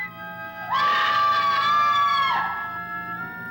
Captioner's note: screaming